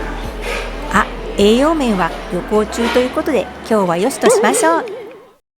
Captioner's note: laughs